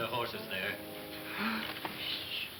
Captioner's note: Pancho gasps